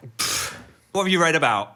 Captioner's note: Dan scoffs